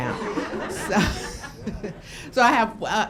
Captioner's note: laughing